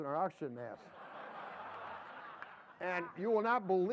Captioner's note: laughter